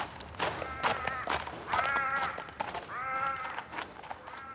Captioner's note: bird calls in distance